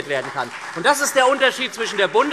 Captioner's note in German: Beifall SPD